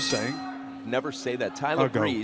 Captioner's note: bell ringing